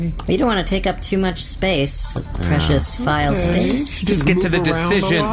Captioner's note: irritated